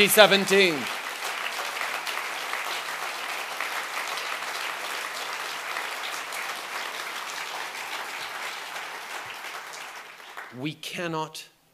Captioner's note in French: Applaudissements